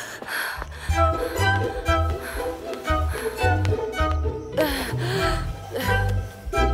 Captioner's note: Footsteps